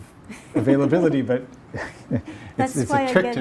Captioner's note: laughs